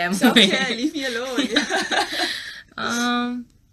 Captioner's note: laughs